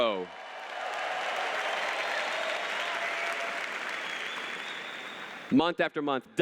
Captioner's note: applause